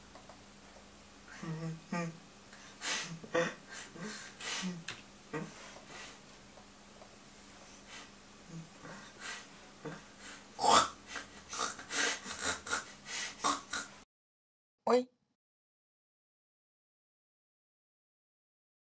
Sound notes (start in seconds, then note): 1.3 laughs; 6.7 laughs; 10.6 grunts